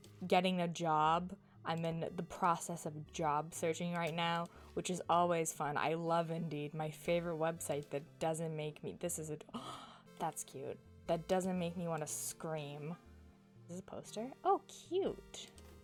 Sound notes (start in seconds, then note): 9.6 gasps